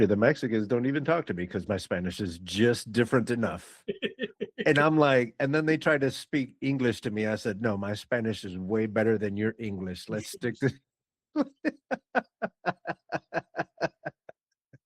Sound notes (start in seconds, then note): 11.4 laughing